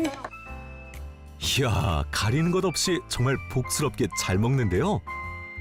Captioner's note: voiceover